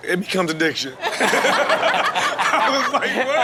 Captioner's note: everyone laughs